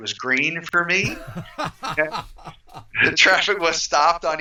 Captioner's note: laughs